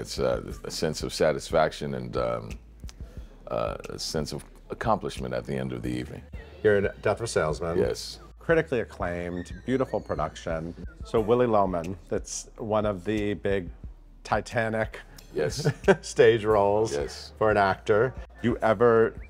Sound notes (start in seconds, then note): 15.5 laughs